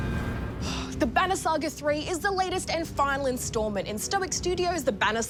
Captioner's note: sighs